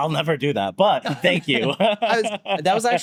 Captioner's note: laughs